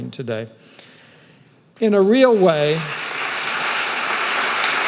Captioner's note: audience applauding